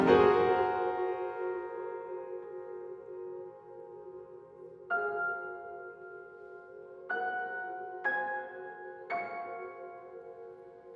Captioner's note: humming